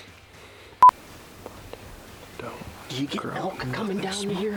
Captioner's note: whispers